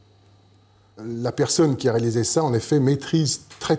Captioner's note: French spoken audio